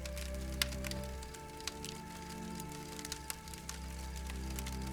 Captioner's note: fire crackling; soft music